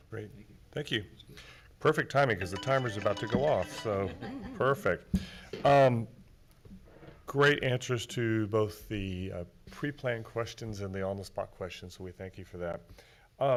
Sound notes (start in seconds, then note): 2.3 timer chiming